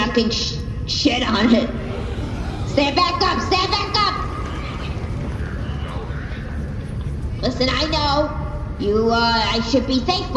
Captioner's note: audience gasps